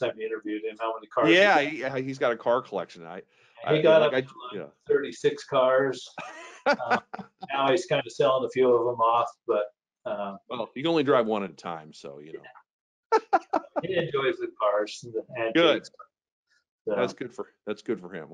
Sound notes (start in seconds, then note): 5.0 laughs; 13.2 laughs